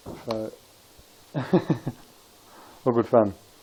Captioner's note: laughs